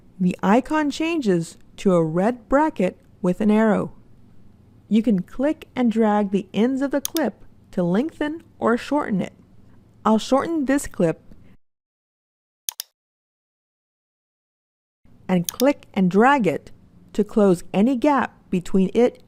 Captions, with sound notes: the icon changes to a red bracket with an arrow. You can click and drag the ends of the clip to lengthen or shorten it. I'll shorten this clip [mouse clicks] and click and drag it to close any gap between it